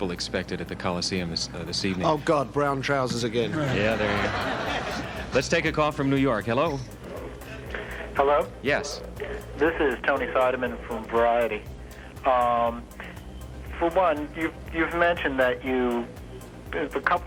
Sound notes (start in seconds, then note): 3.4 audience laughs